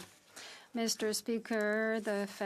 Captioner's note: speaking French